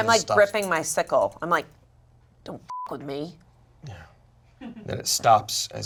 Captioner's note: beep